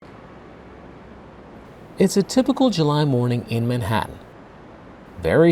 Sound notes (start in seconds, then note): 0.0 traffic rumbling